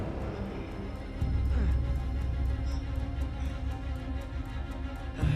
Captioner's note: groaning